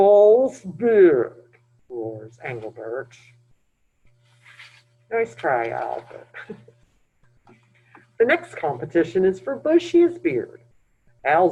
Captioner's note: laughs